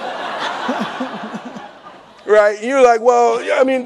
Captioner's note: laughing